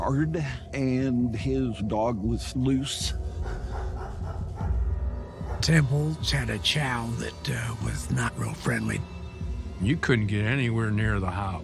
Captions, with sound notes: and his dog was loose. [dog barking] The Temples had a chow that was not friendly. You couldn't get anywhere near the house.